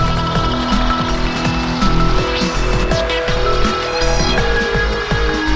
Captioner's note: engine revving